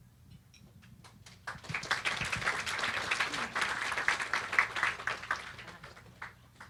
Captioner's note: applause